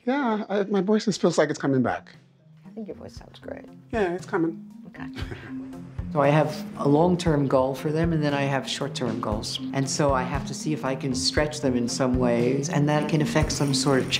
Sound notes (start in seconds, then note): 5.4 narrating